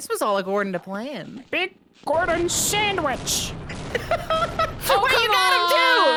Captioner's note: laughs